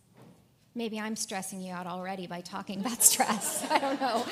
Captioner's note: laugh